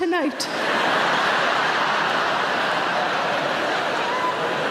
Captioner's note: audience laughing